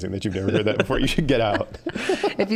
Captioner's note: all laughing